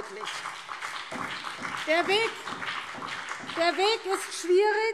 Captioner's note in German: Beifall BÜNDNIS 90/DIE GRÜNEN und vereinzelt SPD